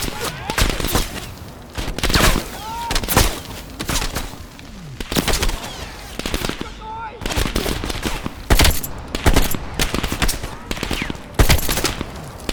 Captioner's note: gun fires